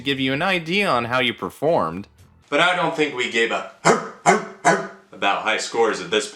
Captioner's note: Steiner bark